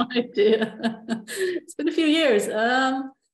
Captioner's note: laughs